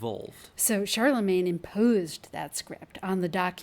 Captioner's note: voiceover